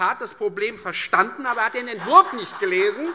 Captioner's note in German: Beifall